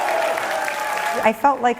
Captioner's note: cheering